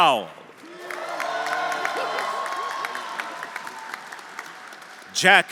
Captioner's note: audience applauding; audience cheering